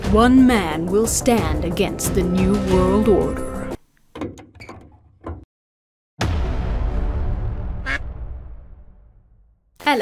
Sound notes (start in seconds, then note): 4.5 soles squeak on hood; 6.2 dramatic music; 7.8 duck quacks